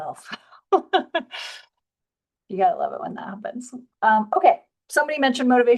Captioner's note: chuckles